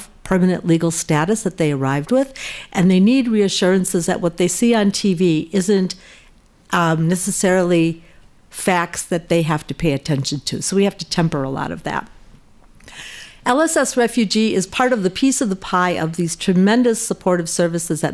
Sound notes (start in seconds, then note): none